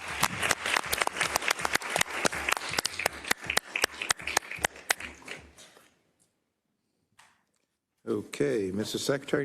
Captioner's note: applause